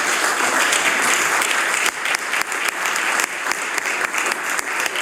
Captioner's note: applause